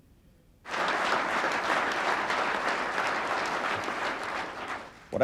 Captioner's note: crowd clapping